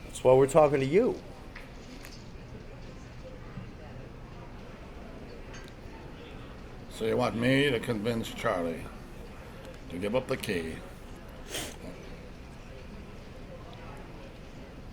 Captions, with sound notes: THAT'S WHY WE'RE TALKING TO YOU. SO YOU WANT ME TO CONVINCE CHARLIE TO GIVE UP THE KEY... [ INHALES ]